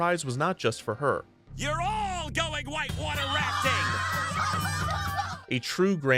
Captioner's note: kids cheer